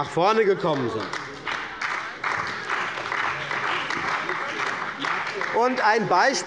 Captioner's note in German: Beifall bei der CDU und dem BÜNDNIS 90/DIE GRÜNEN